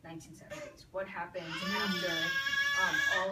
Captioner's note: baby cries in the background